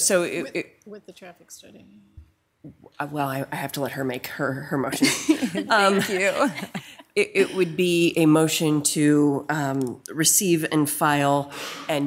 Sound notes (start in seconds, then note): 5.3 members softly laugh